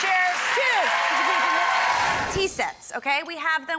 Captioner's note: applause